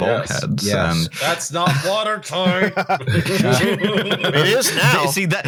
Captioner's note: laughter